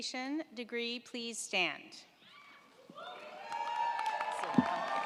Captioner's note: crowd cheering